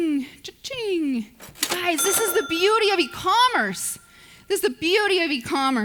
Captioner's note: cash register dings